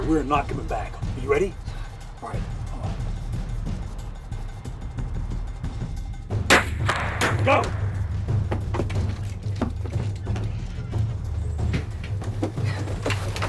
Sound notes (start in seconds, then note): 6.5 gun clicks